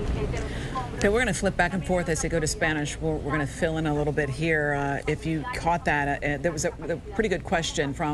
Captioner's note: speaking spanish